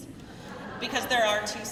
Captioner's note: crowd laughing